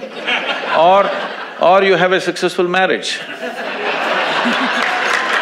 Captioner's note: audience applauds